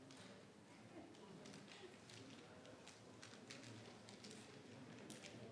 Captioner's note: people chattering